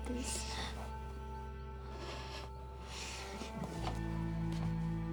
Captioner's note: sniffling